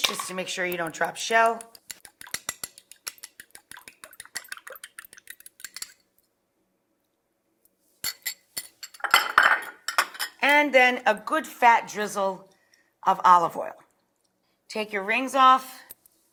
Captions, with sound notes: just to make sure you don't drop shell. (fork clicks) (bowl clunks) And then a good, fat drizzle of olive oil. Take your rings off